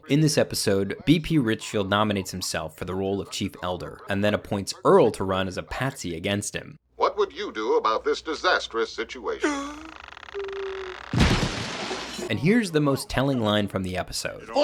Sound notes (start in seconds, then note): 9.4 Earl gasps; 11.1 Earl thudding